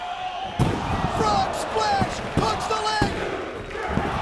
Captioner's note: Mike Awesome thuds